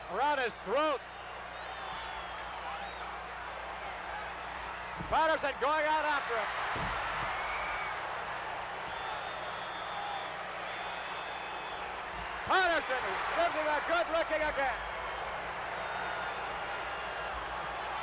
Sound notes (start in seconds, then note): 10.6 whistle blows